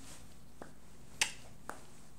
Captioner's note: tongue clicks